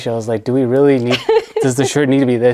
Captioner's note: laughs